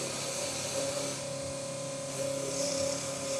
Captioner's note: drill press whirring